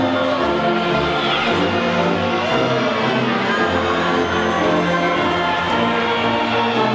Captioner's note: audience whistling and cheering